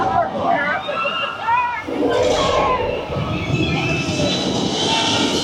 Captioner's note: dinosaurs growling continues